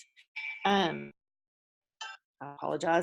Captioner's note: phone ringing